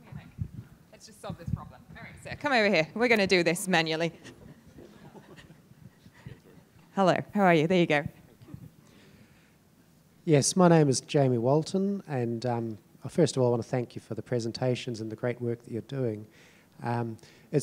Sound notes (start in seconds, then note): 4.2 panellists chuckling